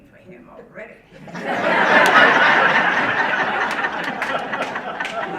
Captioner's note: audience laughing